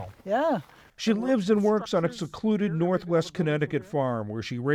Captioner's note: voice-over